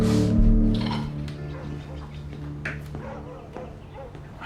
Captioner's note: deep tense music; plates clinking; birds chirping; dog barking outside